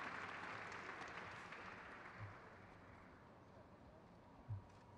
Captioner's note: crowd claps